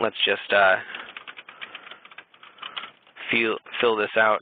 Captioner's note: typing